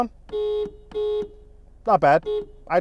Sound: car horn honks

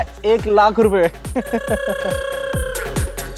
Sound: laughing

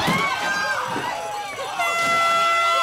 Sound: air horn blows

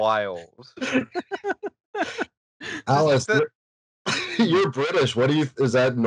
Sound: laughter

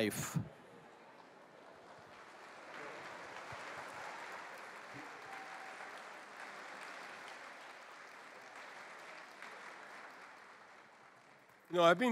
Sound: applause

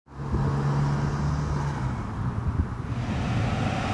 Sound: cars driving

